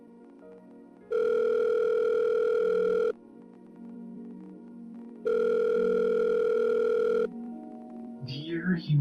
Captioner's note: phone Rings